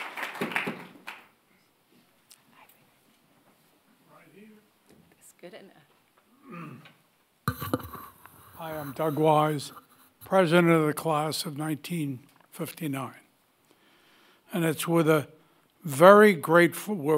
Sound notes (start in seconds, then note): 2.8 whispering